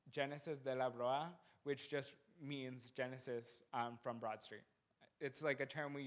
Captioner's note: non-english speech